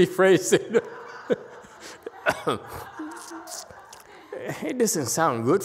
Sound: laughs and clears throat

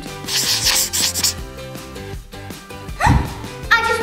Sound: pencil scribbling

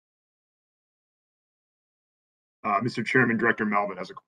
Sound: A pause

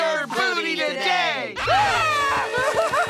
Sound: gasping

